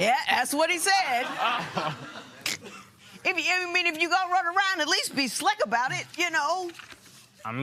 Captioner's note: laughter